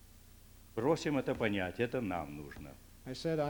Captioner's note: non-english speech